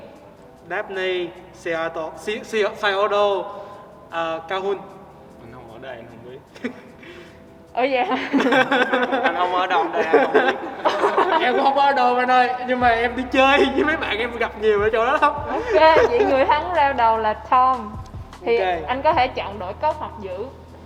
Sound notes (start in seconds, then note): 7.8 laughs; 8.0 chuckles